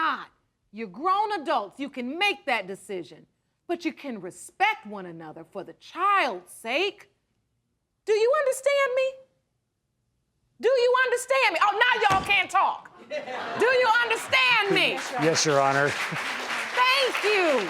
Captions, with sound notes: you're grown adults, you can make that decision. But you can respect one another for the child's sake. Do you understand me? Do you understand me? Oh, now y'all can't talk. (AUDIENCE LAUGHING) Do you understand me? Yes, Your Honor. Thank you.